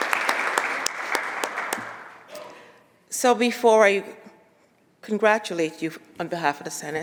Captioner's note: applause